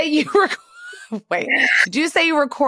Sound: laughter

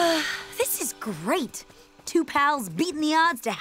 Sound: sighs

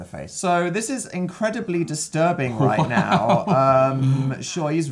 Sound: laughing

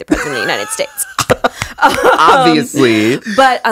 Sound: both laughing

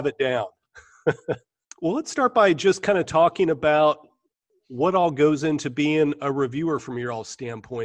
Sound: chuckle

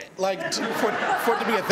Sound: laughter

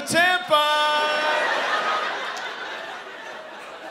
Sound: laughter

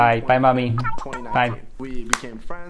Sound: cartoon voice

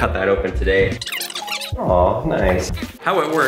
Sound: electronic whirring

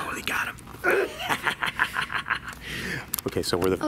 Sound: man laughing

